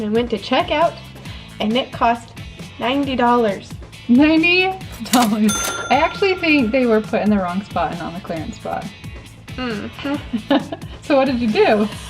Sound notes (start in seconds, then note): 4.9 cash register dings; 10.7 laughs